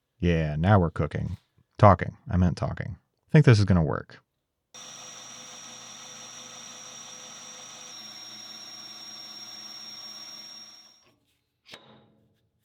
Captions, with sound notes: Yeah, now we're cooking. Talking. I meant talking. I think this is gonna work. (machine whirring)